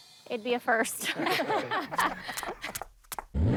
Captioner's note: laughs